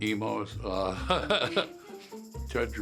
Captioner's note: John chuckling